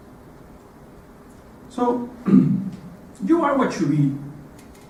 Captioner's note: cough